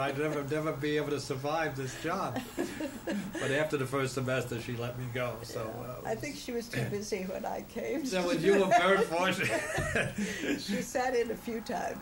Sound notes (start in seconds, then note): 2.3 laughter; 8.3 laughter; 8.4 laughs